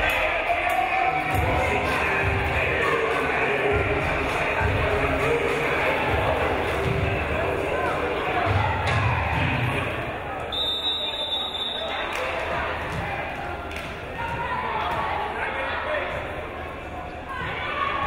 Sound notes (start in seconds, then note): 10.5 whistle blows